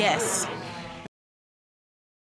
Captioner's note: audience groans